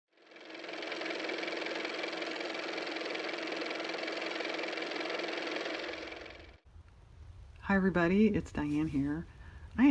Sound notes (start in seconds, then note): 0.1 car motor